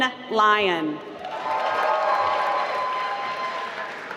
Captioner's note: applause